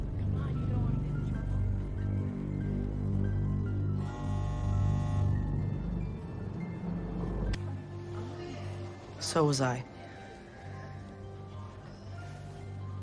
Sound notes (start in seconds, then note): 0.2 chatter; 4.0 door buzzer